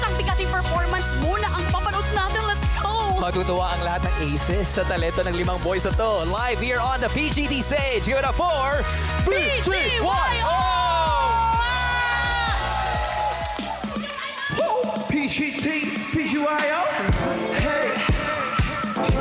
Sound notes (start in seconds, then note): 12.1 cheering